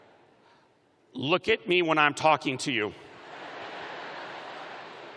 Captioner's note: laughter